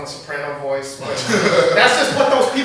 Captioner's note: laughter